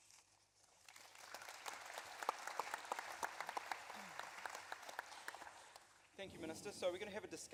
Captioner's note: applause